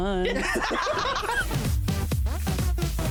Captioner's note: all laughing